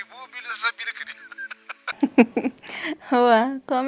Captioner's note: laughs